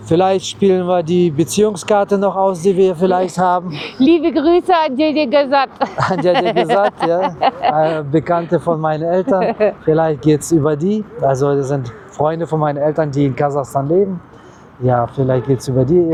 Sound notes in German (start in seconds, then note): 5.7 gelächter